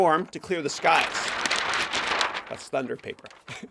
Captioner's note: paper rustling; chuckles